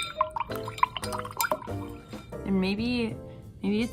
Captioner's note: water sloshing